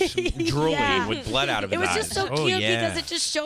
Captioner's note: laughing